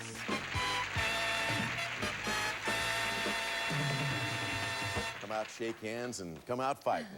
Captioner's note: audience applauding